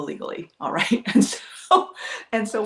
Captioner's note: laughs